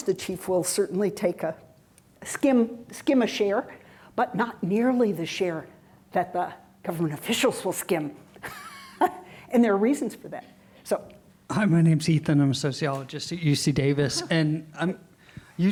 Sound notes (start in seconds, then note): 8.9 laughs